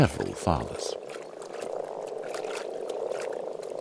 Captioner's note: frogs croaking